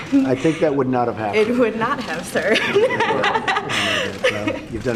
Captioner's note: laughs